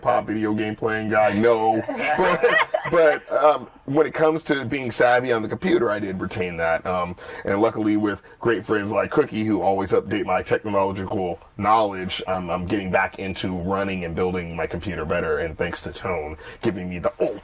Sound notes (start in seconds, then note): 1.2 laughter